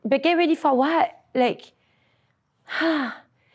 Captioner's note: breaths out heavily